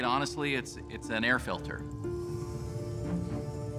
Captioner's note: machine whirring